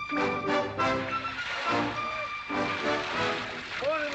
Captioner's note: liquid pouring